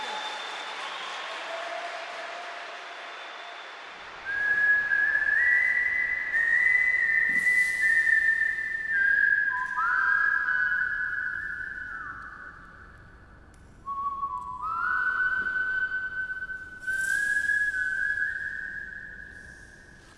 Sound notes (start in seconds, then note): 0.0 applause; 4.4 whistling